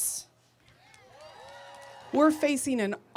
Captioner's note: audience cheering